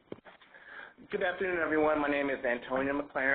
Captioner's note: voiceover